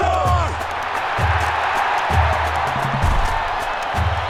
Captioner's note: crowd cheering